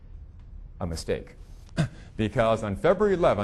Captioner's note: chuckling